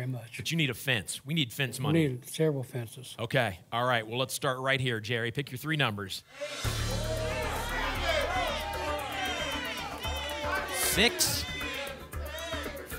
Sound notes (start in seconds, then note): 6.3 audience shouting numbers